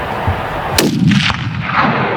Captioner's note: gun shot